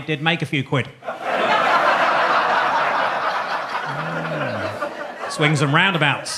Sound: audience laughing

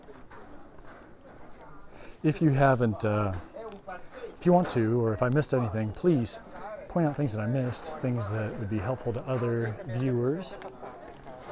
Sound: background chatter

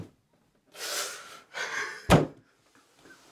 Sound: crying and sniffling

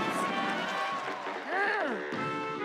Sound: groaning

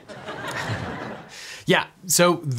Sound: attendees laugh

